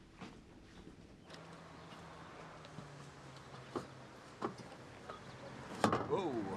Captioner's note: birds chirping; engine rumbling